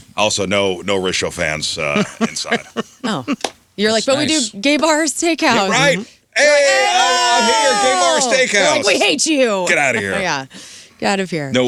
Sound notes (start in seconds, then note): 6.4 cheering